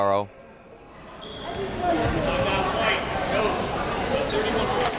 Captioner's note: crowd members talking